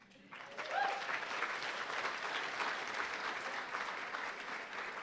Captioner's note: audience applauding and cheering